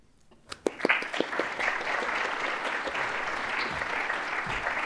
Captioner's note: applause